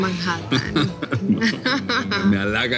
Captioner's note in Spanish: Risas